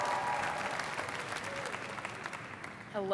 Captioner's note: applause